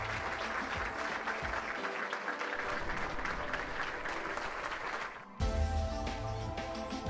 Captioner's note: applause